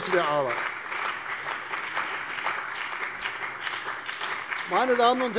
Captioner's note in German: Beifall bei der CDU und dem BÜNDNIS 90/DIE GRÜNEN